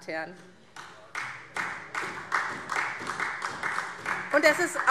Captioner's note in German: Beifall SPD